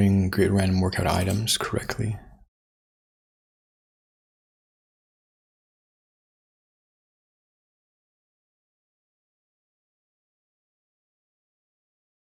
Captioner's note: silence